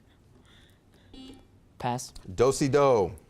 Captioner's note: buzzer beeps